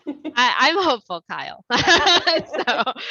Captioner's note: laughter